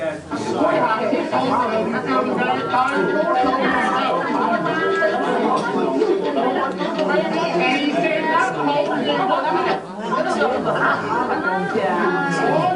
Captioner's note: Speaking Hoisan-wa